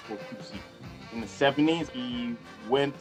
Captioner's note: speaking a foreign language